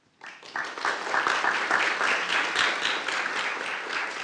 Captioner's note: applause